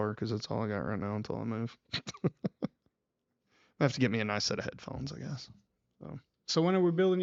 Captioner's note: laughs